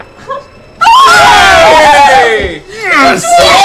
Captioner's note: cheering